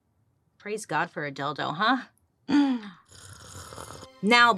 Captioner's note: slurps